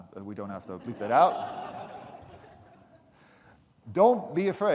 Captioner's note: audience laughing